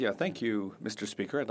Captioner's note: speaking French